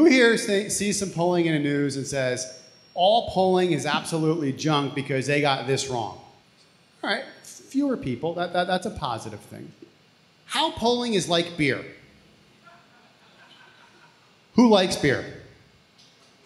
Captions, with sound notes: Who here has seen some polling in the news and says, all polling is absolutely junk because they got this wrong? All right, fewer people. That's a positive thing. How polling is like beer. (audience laughs) Who likes beer?